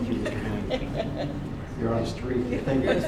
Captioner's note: laughter